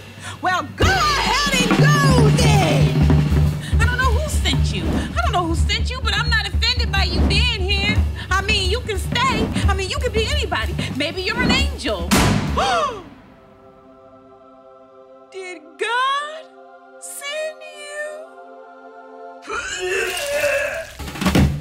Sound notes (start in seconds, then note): 12.1 gasps; 12.1 thud; 13.4 angelic music plays; 19.5 retching